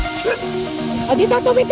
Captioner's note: dog barking